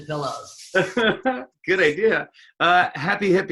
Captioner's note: laughs